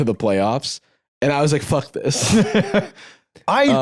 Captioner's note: laughs